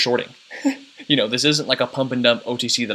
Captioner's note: chuckles